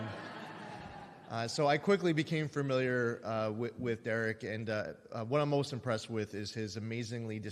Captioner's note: laughter